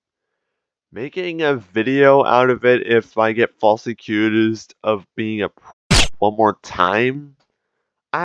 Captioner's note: silenced gunfire